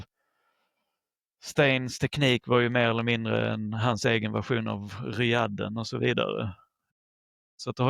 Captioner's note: French